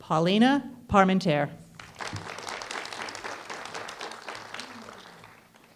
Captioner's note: applause